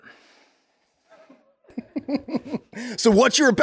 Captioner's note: everyone laughing